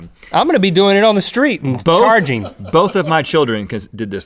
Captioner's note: crew laughs